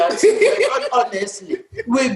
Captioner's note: laughter